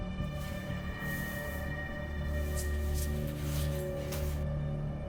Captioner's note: papers rustling